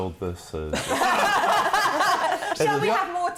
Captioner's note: laughter